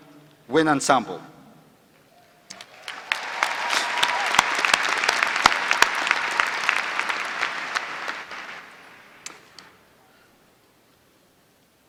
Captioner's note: applause